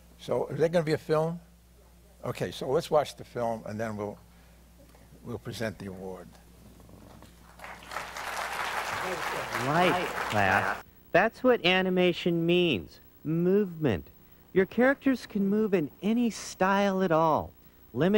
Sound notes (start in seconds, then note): 7.4 applause